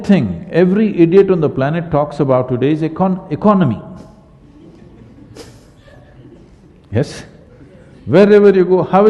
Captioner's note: laughter